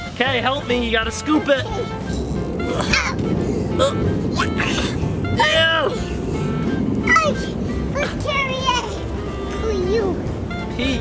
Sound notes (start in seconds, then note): 1.9 effort-making noises